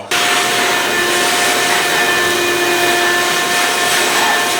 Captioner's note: loud vacuuming